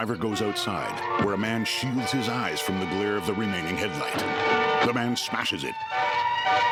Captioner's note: suspenseful music; thudding